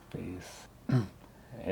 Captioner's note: clears throat